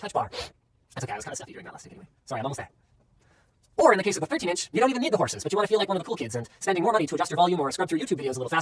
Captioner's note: more fast talking